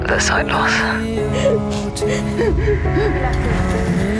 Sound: sobs

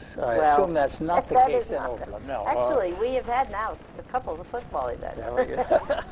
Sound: laughs

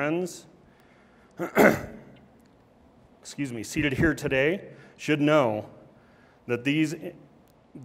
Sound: clears throat

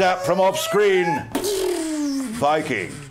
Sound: zap

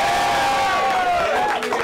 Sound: cheering

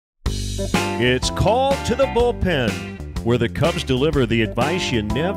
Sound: voiceover

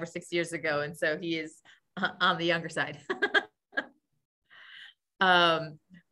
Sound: laughs

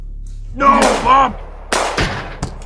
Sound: gunshots

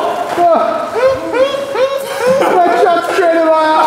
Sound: laughing

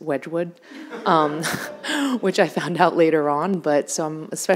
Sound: audience laughing

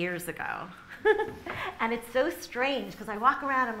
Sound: laughs

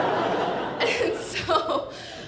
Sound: audience laughing

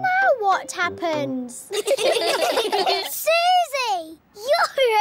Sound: all giggling

